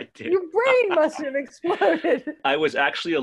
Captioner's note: laughs